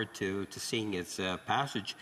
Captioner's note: speaking French